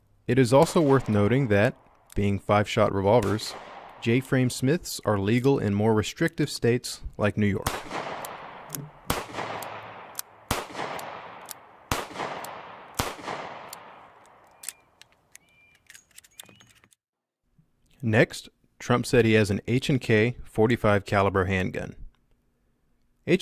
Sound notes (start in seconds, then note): 9.3 gun firing